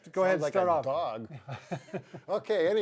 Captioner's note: laughs